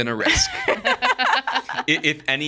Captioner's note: all laughing